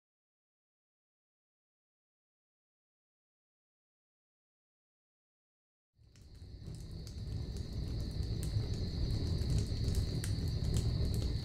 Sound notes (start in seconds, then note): 6.0 fireplace crackling gently